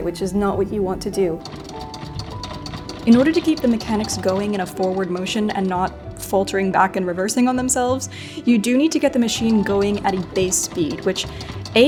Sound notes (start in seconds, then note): 0.5 lever clacking